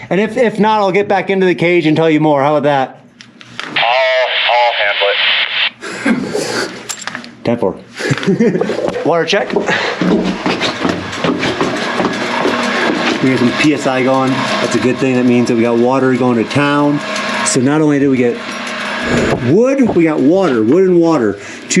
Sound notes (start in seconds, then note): 4.1 man On Radio; 8.0 laughs